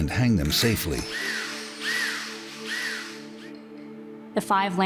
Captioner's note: screwdriver whirring